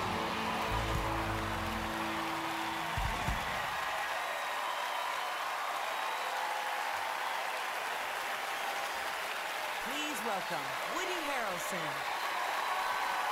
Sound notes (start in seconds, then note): 1.5 cheering, applause